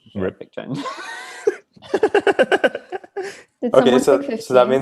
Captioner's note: laughing